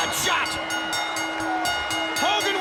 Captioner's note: bell ringing